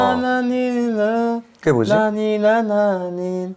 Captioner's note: soulful humming